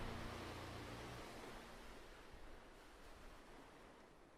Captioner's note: waves lapping